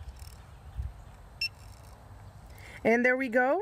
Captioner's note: machine beeps